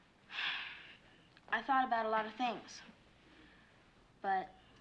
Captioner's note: sighs